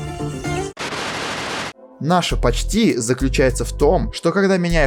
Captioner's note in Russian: пшшш